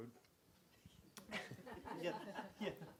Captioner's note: laughing